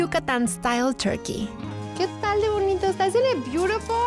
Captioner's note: pati speaking spanish